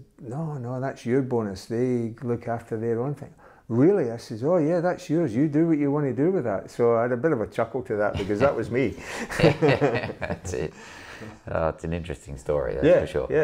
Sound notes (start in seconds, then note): 8.1 chuckles